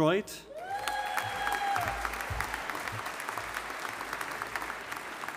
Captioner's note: audience applauding